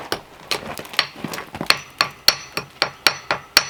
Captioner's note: hammering